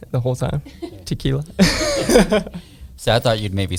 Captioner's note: laughs